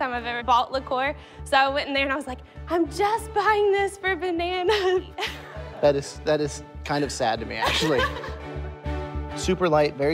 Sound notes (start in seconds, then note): 4.5 laughter